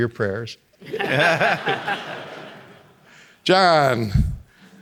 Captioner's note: audience laughing